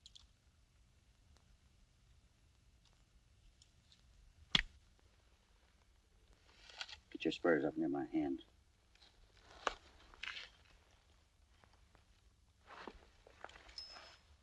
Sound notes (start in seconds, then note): none